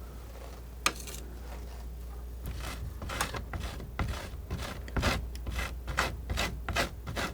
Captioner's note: scratching